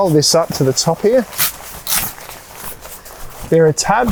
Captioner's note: fabric rustling